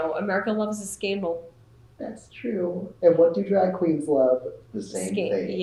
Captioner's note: laughs